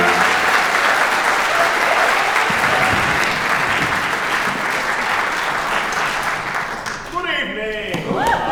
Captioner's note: applause